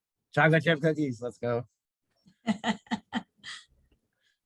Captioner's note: laughs